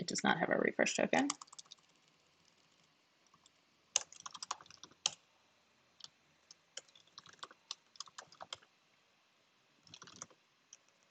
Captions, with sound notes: it does not have a refresh token. (keyboard rattling)